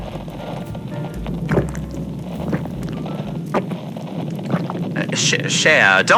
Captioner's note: listener gulps gin fx